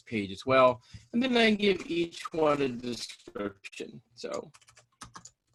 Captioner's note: audio distorting